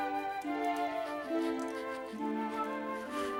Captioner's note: sniffing